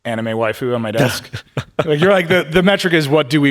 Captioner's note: Min chuckling